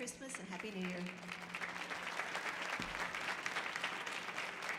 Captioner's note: audience applauding